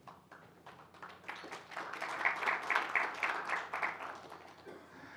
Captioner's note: applause